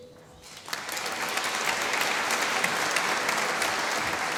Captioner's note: applause